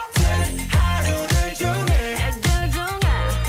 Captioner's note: cheers